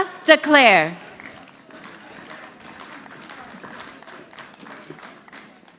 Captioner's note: audience clapping